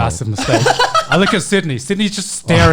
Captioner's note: laughing